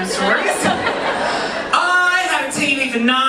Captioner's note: audience laughing